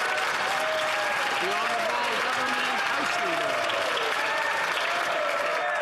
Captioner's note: some Applause